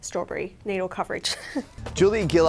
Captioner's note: laughs